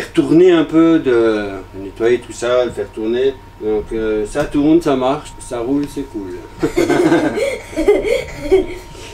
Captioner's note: rire